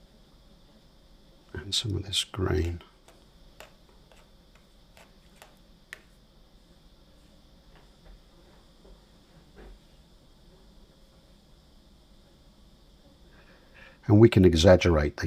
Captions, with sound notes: And some of this green. [silence] And we can exaggerate